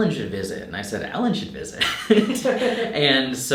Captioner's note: laughing